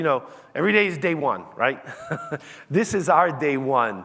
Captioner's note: laughs